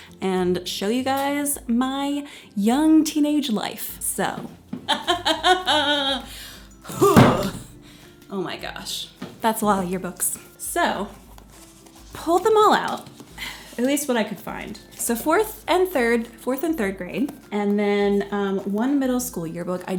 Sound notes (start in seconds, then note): 4.8 laughing; 6.9 table banging